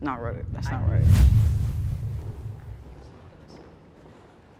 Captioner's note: whoosh air